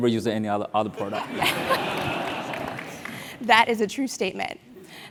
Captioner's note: laugh